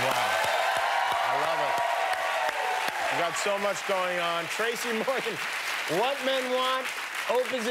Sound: cheers and applause

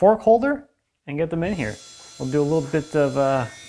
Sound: saw whirring

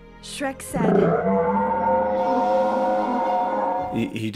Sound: roars

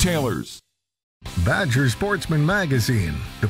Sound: voiceover

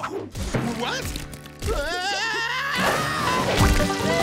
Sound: screaming

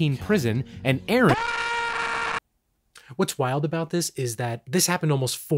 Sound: scream

